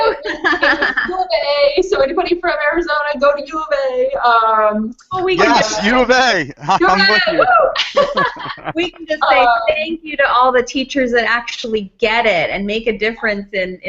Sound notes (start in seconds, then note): 7.7 laughs